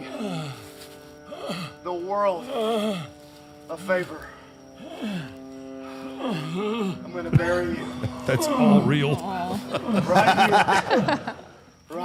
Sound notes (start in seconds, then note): 0.3 Undertaker whimpering; 6.2 Undertaker whimpering; 8.1 Mark laughs; 9.7 laughs